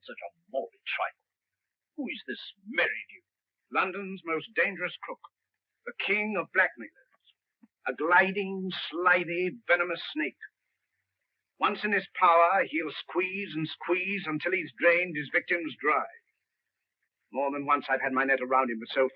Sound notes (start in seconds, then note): none